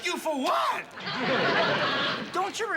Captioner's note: laughter